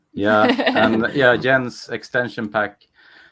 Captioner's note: laughs